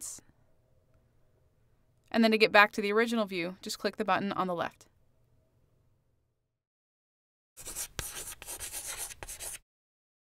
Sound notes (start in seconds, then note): 7.6 chalk scratching